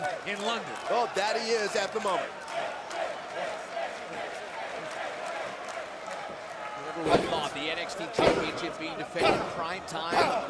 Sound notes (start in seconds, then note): 2.4 crowd cheering; 4.4 crowd chatter